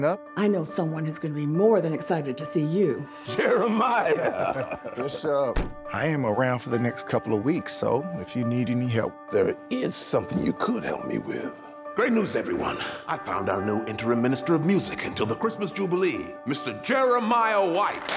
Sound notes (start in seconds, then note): 3.3 laughs